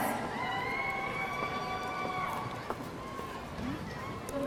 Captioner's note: audience cheering